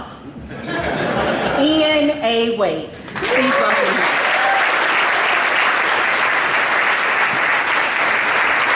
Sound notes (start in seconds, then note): 0.4 audience laughs; 3.1 audience applauding